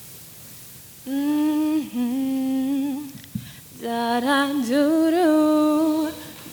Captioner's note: vocalizes